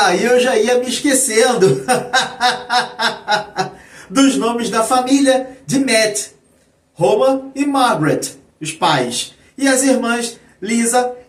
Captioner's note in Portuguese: risadas